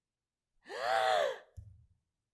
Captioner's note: loud gasp